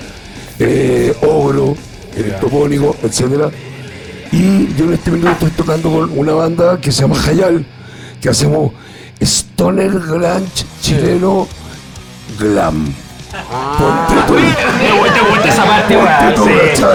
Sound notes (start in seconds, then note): 13.1 laughs